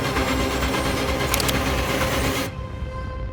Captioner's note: gun cocks